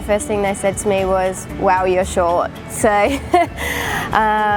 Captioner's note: laughs